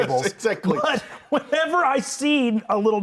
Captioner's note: laughs